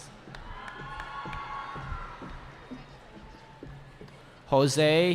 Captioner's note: cheering